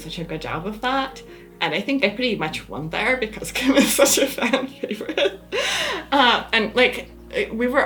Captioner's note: laughs